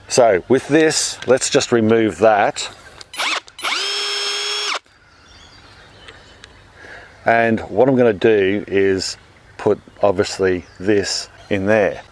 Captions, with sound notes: So, with this, let's just remove that. (drilling) And what I'm going to do is put, obviously, this in there.